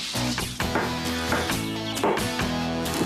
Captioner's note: whap! Whap! Whap!